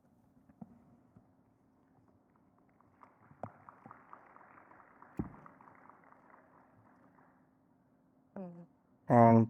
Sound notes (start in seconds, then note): 2.6 audience clapping